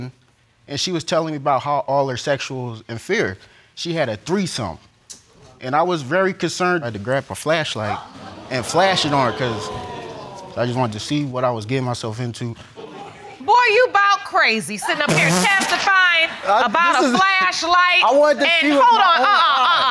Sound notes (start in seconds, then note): 4.5 clicks tongue; 5.3 audience exclaiming; 10.1 audience chuckle; 15.0 blows raspberry